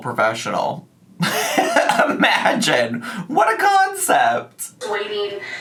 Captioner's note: laughs